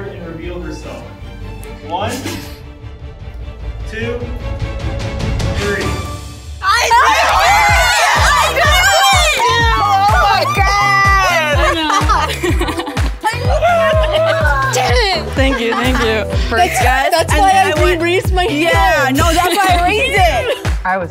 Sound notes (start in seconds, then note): 1.1 suspenseful music; 9.5 all chattering excitedly